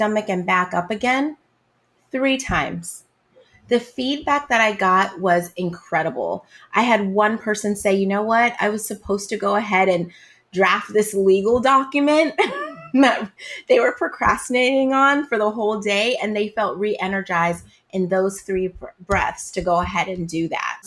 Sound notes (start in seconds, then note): 12.4 laughs